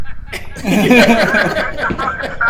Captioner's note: both laughing